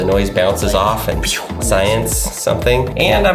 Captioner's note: whistle